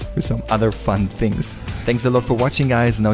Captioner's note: air wooshing